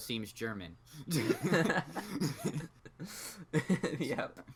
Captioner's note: both giggle; still laughing